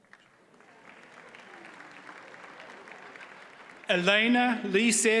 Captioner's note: audience applauds